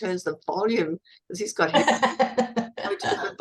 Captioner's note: laughs